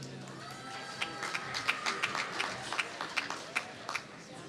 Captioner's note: applause